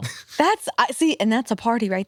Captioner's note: laughs